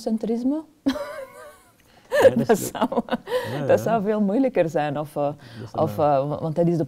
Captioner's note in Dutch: lacht